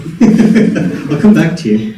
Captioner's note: host laughing